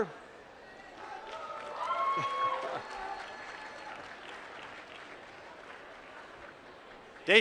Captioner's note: applause